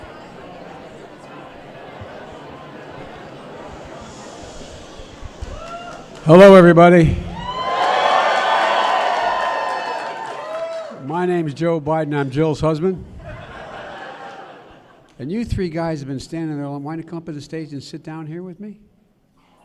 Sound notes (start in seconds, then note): 7.6 applause; 13.2 laughter